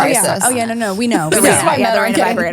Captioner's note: overlapping chatter